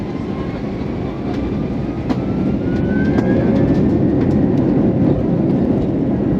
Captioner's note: engines ramp up